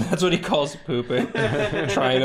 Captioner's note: laughs at scat